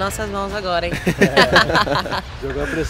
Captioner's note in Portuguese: risadas